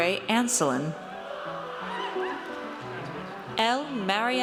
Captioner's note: audience cheers